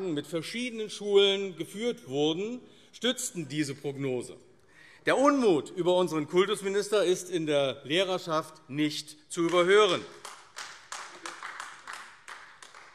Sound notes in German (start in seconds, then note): 9.4 Beifall AfD